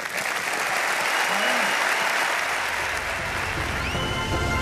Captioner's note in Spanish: Aplausos